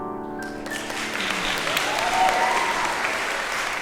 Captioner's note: applause